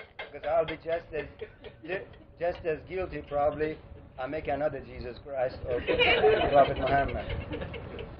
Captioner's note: gülüyorlar